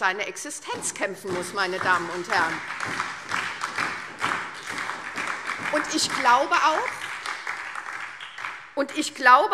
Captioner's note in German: Beifall SPD